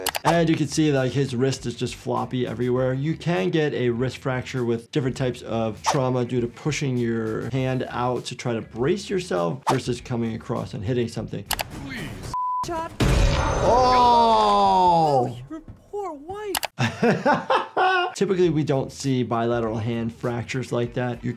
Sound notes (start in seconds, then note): 13.1 clanking; 16.7 laughs